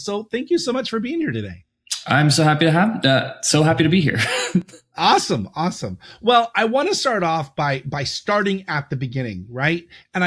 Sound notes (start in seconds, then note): 4.0 laughs